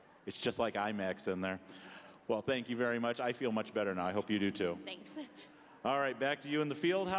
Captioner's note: none